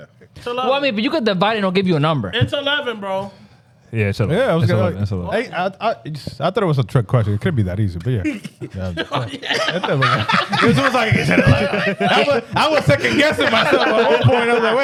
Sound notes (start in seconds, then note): 10.2 laughing